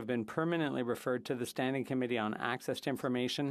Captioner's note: speaking French